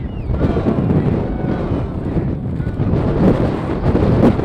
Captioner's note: wind storm